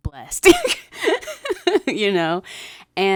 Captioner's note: laughing